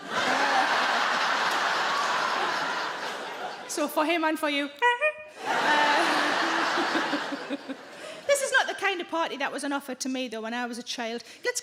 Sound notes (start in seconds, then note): 0.0 audience laughing; 5.0 Sarah imitates horn honking; 5.3 audience laughing